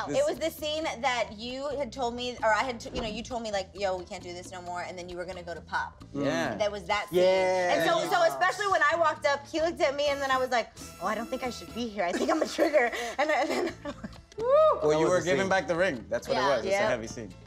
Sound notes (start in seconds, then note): 12.2 laughs